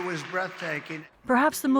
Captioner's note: cheering